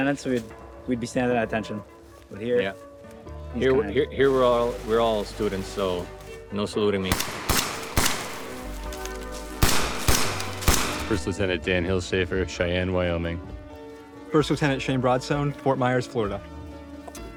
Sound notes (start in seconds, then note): 7.1 gunshots